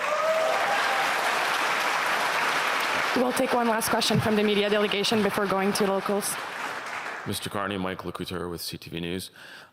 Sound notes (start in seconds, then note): 4.8 applause